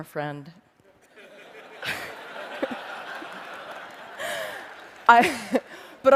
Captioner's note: laughter